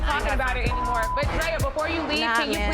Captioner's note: beep